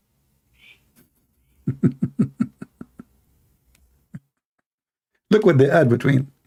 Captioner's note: Ketawa